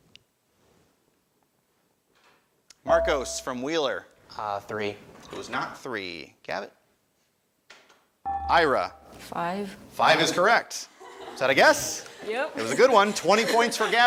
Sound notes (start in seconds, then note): 2.9 buzzer chimes; 8.4 buzzer chimes